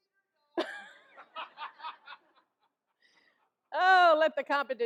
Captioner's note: all laugh